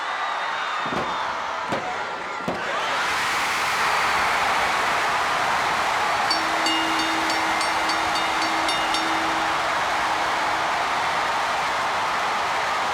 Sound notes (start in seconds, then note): 2.9 audience roaring; 6.2 bell rings